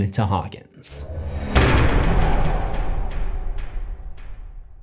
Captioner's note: impact